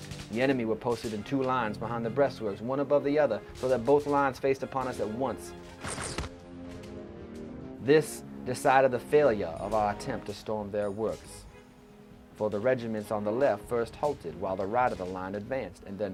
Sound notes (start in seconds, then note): 5.8 gun fire